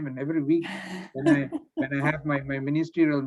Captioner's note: laughs